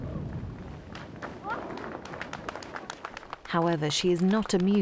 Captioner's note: crowd applauds